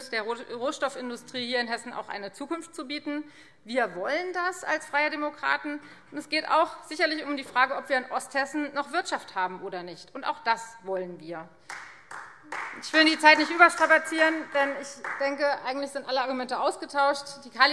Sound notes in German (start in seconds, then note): 11.6 Beifall Freie Demokraten